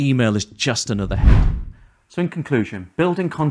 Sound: transition whooshes

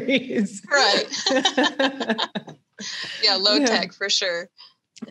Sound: both laugh

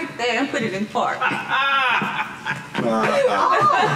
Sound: laughing

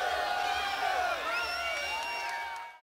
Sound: audience cheering

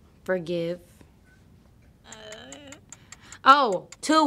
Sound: clock ticking

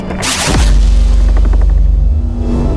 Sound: sonic boom

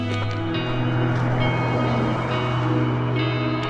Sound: engines roar

